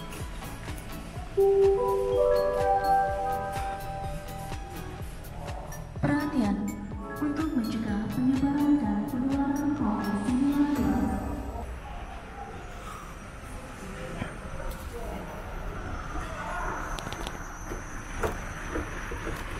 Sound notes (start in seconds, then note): 1.4 announcement in Indonesian regarding Covid-19 protocols